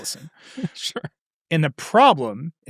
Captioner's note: laughing